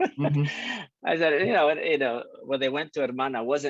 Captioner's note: laughing